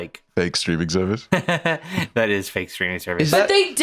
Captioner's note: laughs